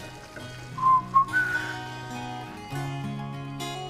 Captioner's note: whistling